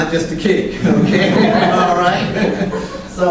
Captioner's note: laughter